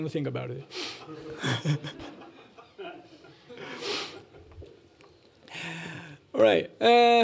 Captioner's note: laughter